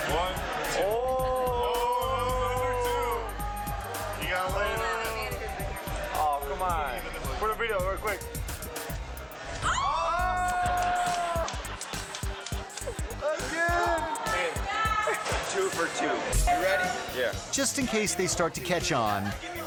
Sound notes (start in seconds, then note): 9.6 friend laughing; 9.6 waitress squealing; 11.0 audience laughing